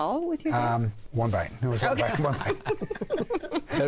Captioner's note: laughter